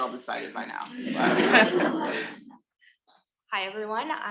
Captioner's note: attendees laughing